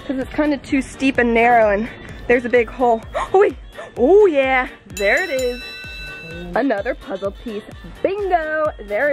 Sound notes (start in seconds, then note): 3.6 gasps; 4.9 bell rings